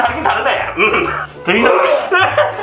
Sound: throwing up sounds

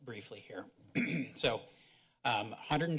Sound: clears throat

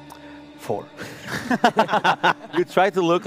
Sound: laughs

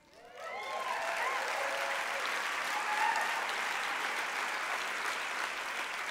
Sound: applause

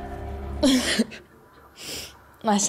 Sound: laughs

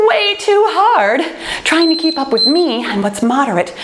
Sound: timer beeping

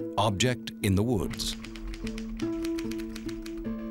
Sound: typewriter tapping

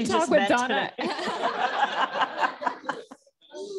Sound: laughter

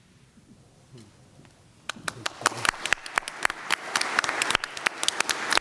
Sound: applause

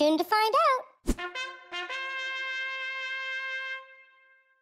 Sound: camp horns

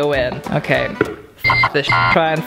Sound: beep

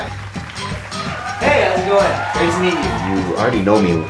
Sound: audience cheers

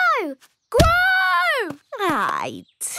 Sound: stomping

